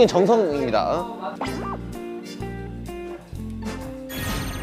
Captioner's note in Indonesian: Gugup